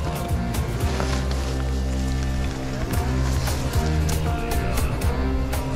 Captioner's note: steps in the woods sounds